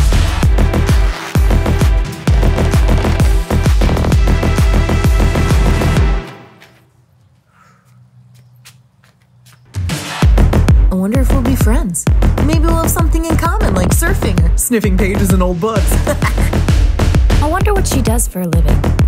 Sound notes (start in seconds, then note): 16.0 chuckles to herself